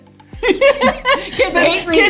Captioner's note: both laughs